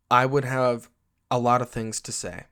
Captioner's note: none